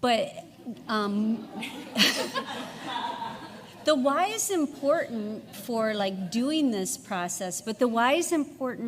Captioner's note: laughs